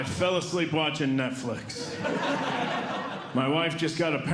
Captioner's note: audience Laughing